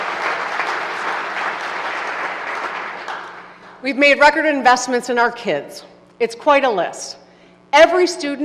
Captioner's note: applause